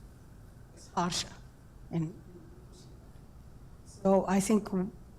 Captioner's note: audio cuts out